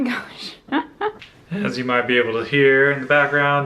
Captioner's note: laughs